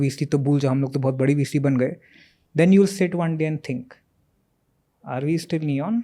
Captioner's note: speaks in Hindi